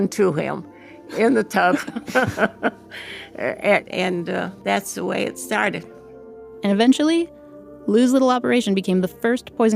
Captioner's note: laughs